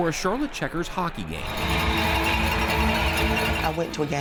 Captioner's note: cowbell rings